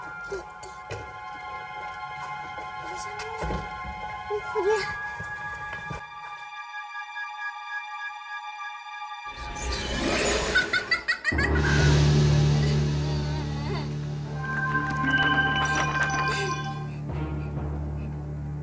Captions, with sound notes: Okay. Hurry up. Yes, Hansel. -[witch laughing] -[Ethel crying]